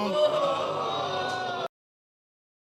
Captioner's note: audience exclaiming